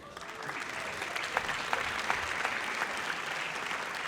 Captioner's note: audience applauds